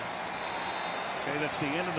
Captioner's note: whistle